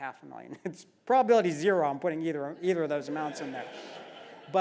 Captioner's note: laugh